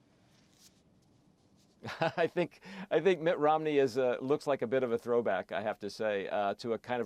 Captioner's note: laughs